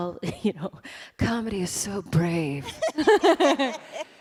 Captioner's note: sultry voice; laughter